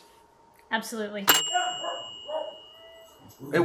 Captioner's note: Barnabas barking in the background